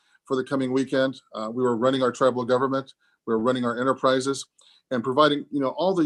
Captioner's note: none